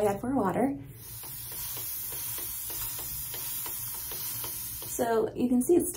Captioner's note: water spraying sounds